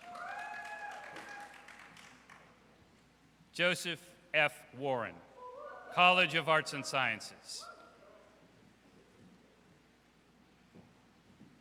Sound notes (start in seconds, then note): 0.0 audience cheers; 7.9 audience cheers